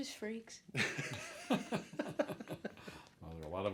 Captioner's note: chuckles